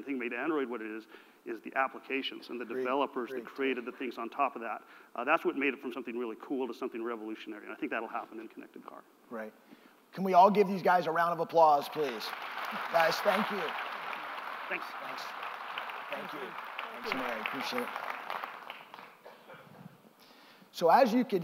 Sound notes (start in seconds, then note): 11.8 applause